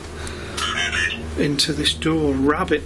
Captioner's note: beeping